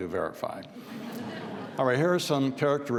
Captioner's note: audience laughs